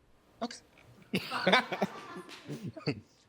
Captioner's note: courtroom laughing